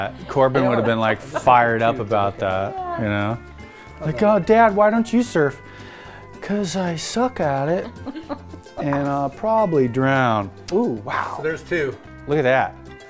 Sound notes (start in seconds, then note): 7.8 laughs